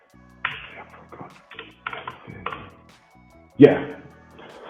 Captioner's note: keys clicking